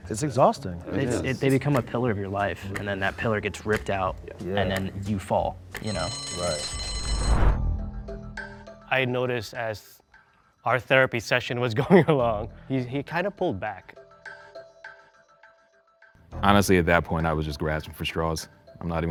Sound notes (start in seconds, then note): 5.8 bell rings; 6.4 intense music